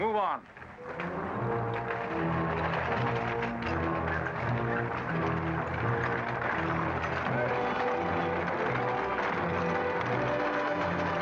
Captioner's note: carriages rattling; ominous music